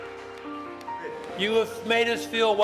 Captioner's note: clapping